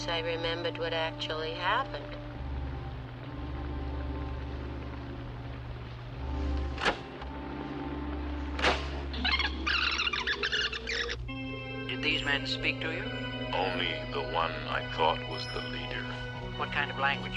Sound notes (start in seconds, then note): 6.7 tape recorder clicks; 8.6 tape squeaks